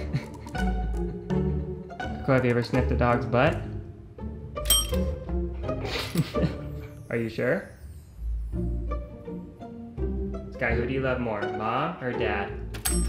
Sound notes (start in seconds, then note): 0.0 man laughing; 4.6 bell dinging; 5.8 man laughing; 12.8 bell dinging